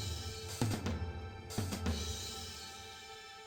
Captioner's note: none